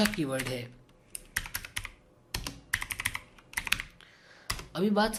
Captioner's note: keyboard sound